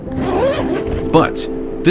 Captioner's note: gentle music; bag zipping